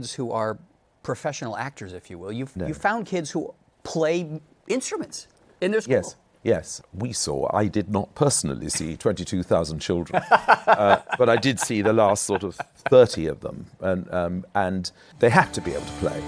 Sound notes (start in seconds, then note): 10.1 laughs